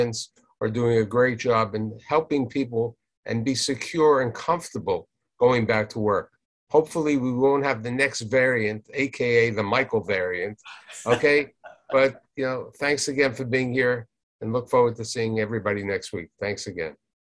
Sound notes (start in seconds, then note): 10.8 guests laughing